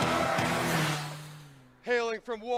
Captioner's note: air whooshes